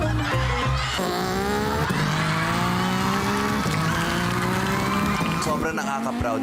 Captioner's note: audience laughing; imitates motorcycle engine revving